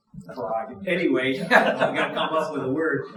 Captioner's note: audience chuckling